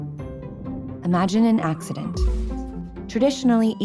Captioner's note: voiceover